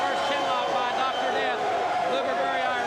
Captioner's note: crowd chatter